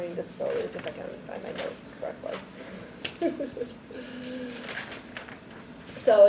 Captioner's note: laughs